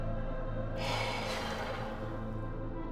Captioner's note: sighs